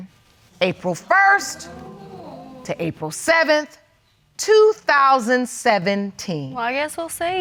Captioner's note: audience exclaiming